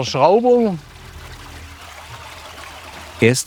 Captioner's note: sound of water splashing